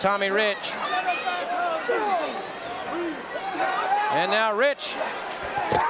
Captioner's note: audience cheering